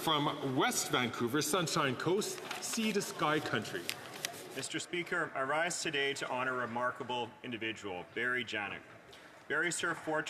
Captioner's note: speaking French